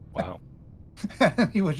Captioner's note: laughing